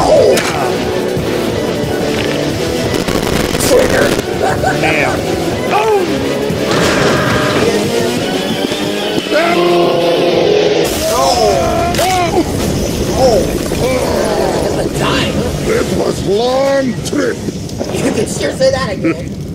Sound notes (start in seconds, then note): 4.2 starts laughing; 10.8 explosion goes off